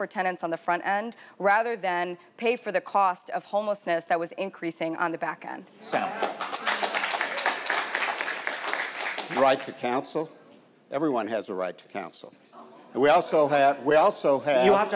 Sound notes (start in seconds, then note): 5.9 audience applauding